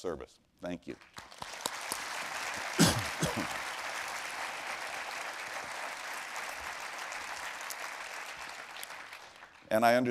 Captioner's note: applause